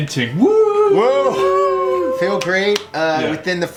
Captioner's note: group cheers